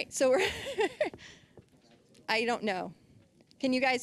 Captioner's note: laughing